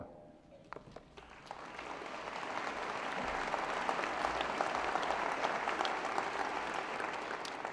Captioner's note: applause